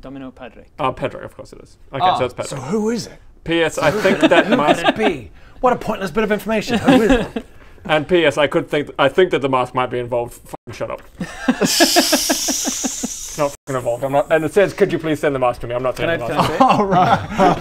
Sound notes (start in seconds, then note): 11.2 giggles